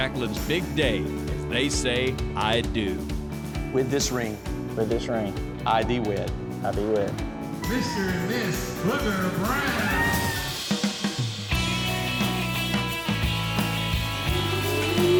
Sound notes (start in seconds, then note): 9.0 everyone cheers